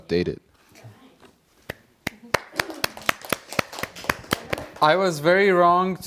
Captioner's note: applause